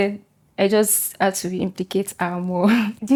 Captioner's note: laughs